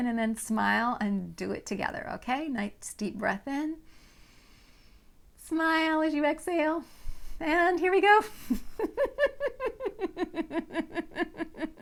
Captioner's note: laughing